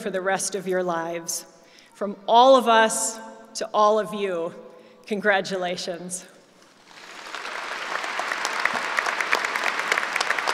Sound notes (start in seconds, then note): 6.7 applause